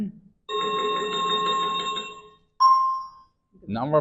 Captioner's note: chiming sound effect